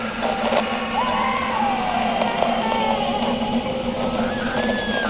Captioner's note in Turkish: ağlama sesleri; bağırma